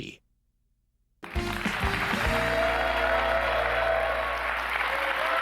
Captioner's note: applause, cheers